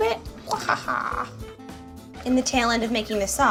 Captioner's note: cartoonish laughter